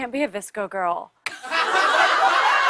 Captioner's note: laughter